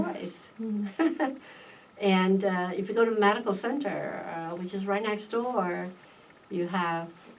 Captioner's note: laughs